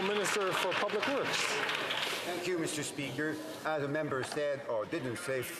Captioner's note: some Applause